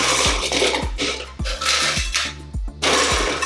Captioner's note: ice rattling